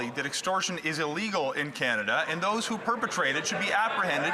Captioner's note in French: voix de l'interprète